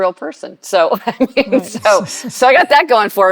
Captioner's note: laughing